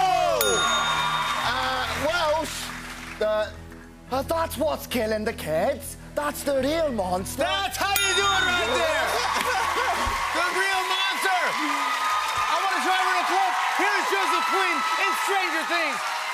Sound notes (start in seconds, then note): 0.4 ding; 3.8 Welsh accent